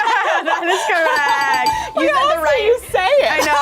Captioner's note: group laughs; buzzer rings